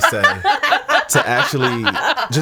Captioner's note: laughing